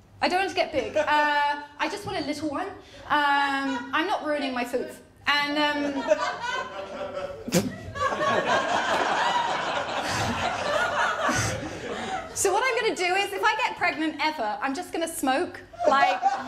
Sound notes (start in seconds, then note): 5.6 laughter